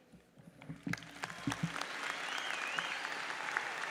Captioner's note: audience applauds